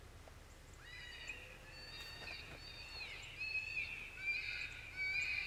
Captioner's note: animal calls continue